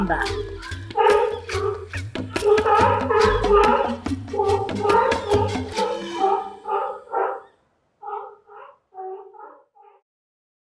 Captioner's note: sea lions barking